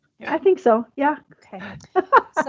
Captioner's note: laughs